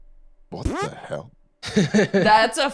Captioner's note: mechanical fart